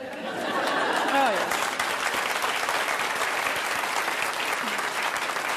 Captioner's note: applause